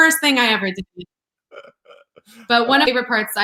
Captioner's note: laughs